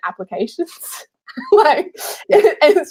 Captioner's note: laughing